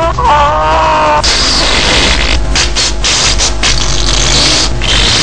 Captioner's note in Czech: Zvuky prdění